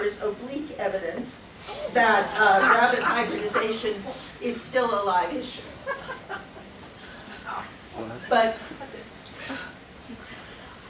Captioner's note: laughs